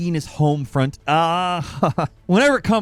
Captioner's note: laughs